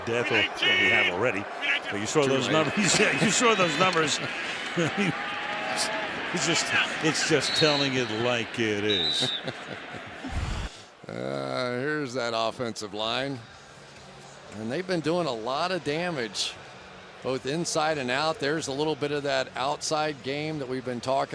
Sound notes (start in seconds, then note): 8.8 whistle blows; 8.8 chuckles